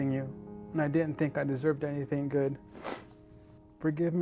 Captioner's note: sniffles